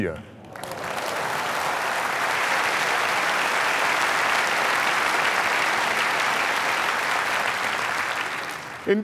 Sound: applause

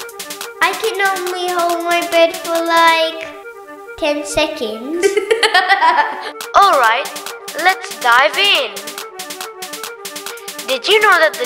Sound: laughs

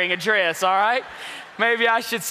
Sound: congregation laughs

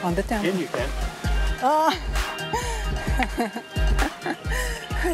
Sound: laughs

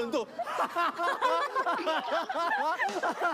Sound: hahahaha

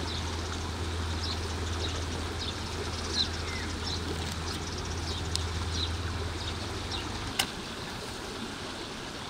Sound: sound of birds

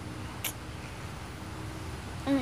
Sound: clicks tongue

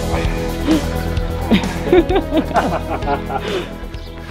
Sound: laughter

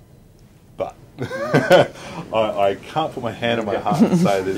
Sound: laughing

